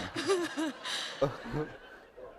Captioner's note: laughter